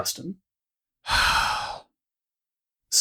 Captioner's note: sighs loudly